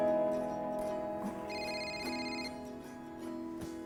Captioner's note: ringing